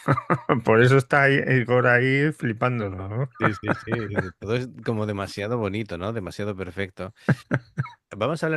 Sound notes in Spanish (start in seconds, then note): 3.3 risas